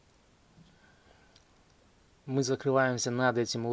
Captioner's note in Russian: none